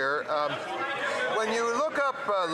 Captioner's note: some Applause